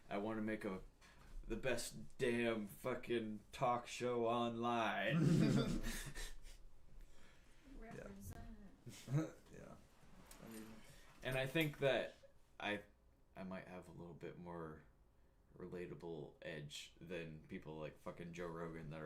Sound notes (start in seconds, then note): 5.1 laughing